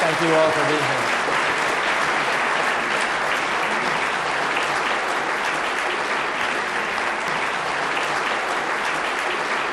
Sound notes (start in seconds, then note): 1.4 audience clapping